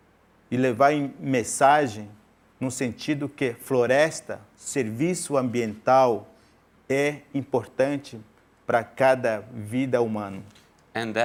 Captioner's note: speaking in portuguese